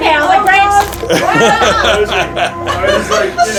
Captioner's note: laughing